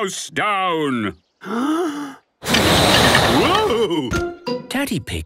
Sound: inhaling deeply; blowing

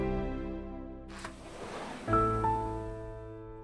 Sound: door opens

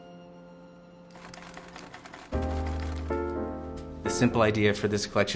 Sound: air clacks

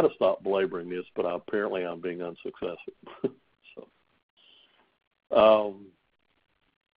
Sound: chuckles

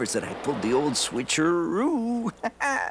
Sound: laughs

